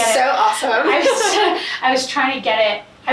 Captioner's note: laughing loudly